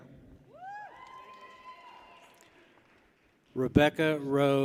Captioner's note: people cheer